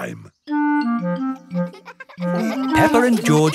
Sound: children laughing

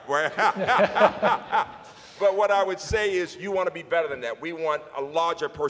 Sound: laughs

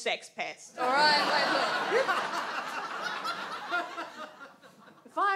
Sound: audience laughs

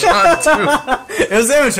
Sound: laugh haha

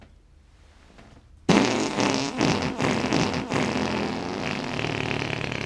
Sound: blows raspberry

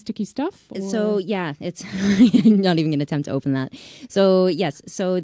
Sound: laughs

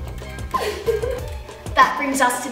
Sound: laughing

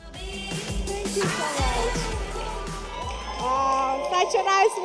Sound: audience applauding

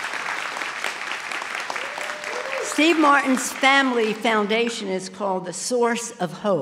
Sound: applause

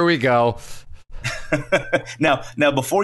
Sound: laughs

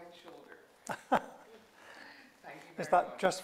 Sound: chuckles

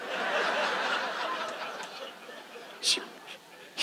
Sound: audience laughs

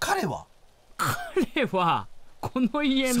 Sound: laughs

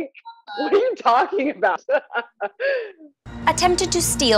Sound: laughs

